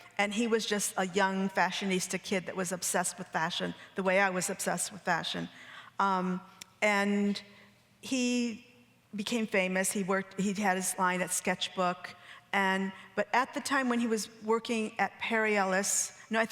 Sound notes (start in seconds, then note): none